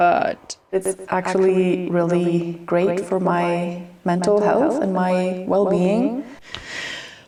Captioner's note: echo